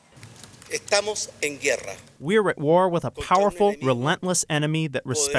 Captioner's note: through translator